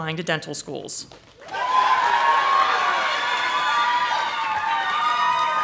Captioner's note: audience applauding